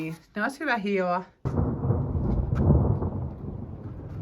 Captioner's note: thunder